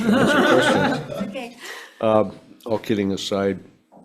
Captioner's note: group laughing